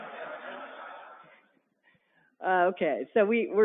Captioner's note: laughter